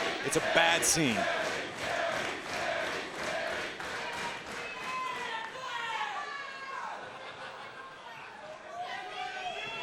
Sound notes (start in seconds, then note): 0.0 crowd chants "Sami"